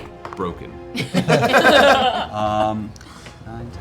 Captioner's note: laughter